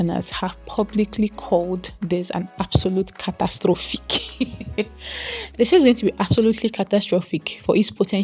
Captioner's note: laughter and gasps